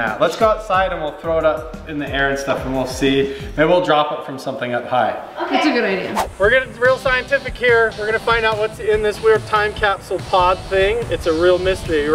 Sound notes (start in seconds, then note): 5.9 whooshing